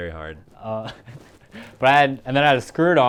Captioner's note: laughs